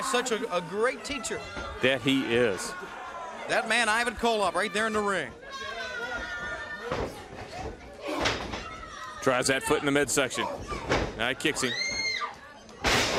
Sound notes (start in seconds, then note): 6.4 crowd chatter